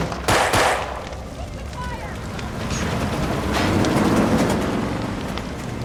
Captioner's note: gunfire